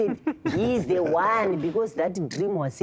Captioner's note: laughter